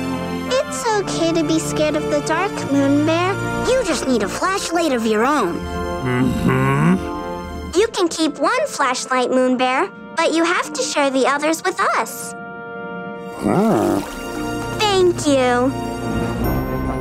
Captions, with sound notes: It's okay to be scared of the dark, moon bear. You just need a flashlight of your own. Mm-hmm. You can keep one flashlight, moon bear, but you have to share the others with us. [grunting] Thank you.